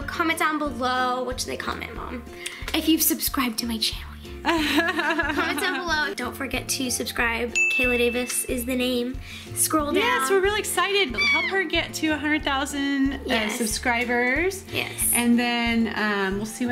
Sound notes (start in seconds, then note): 4.5 laughs; 7.5 ding